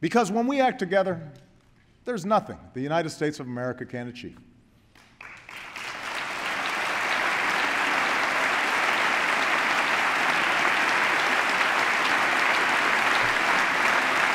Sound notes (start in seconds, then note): 7.9 applause